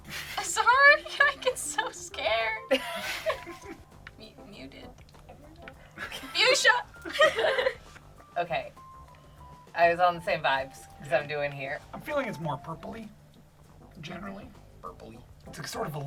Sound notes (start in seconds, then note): 2.6 group laughs